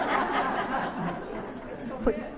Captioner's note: laughter